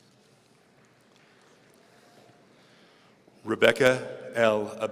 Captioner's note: audience applauds